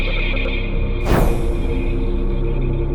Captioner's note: puff